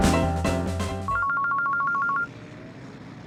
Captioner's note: mobile phone rings